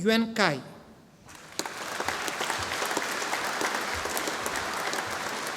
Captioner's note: audience applauding